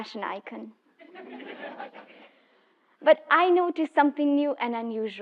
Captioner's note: laugh